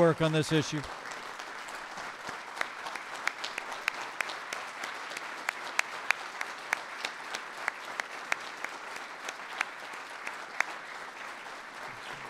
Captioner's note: applause